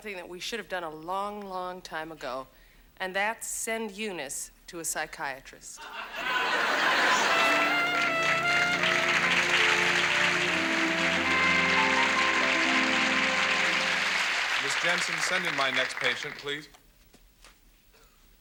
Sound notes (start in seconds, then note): 6.0 audience laughs; 8.2 audience applauds